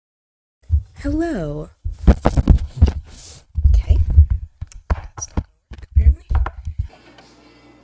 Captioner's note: mic falls loudly